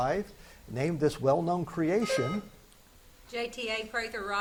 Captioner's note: buzzer beeps